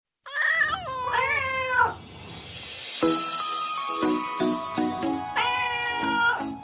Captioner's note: meowing Cats